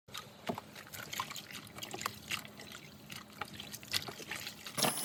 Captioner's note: water sounds